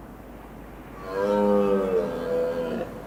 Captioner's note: bellows